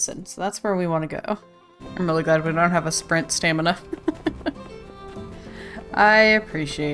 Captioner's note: laughs